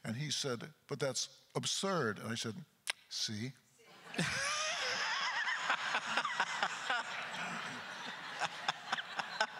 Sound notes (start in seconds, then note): 4.0 crowd laughter; 4.0 laughing